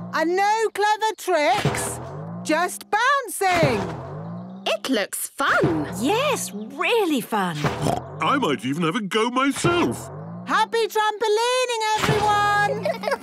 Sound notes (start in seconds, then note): 7.7 snorts